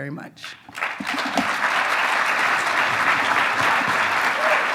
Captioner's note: audience claps